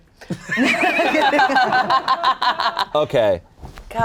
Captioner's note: cast & crew laughing